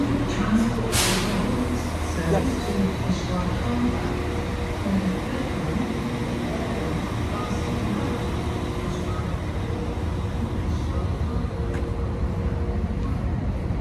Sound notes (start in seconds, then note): 4.6 female Announcer, distant; 8.5 female Announcer, near-inaudible